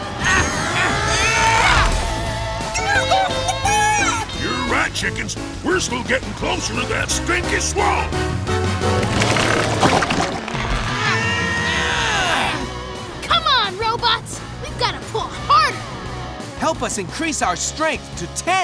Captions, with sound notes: [chickens clucking] You're right chickens, we're still getting closer to that stinky swamp! Come on, robots, we've gotta pull harder! Help us increase our strength to ten!